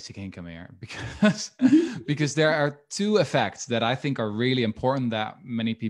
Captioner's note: chuckles